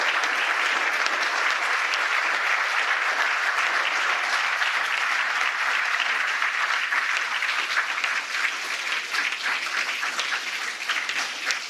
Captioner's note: applause